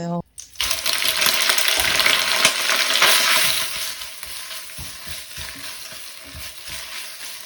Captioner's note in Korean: 미역 기름에 볶는 소리